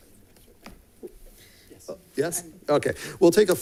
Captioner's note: board member speaking faintly